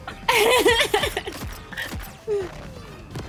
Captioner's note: laughs